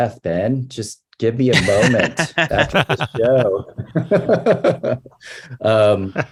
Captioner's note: laughs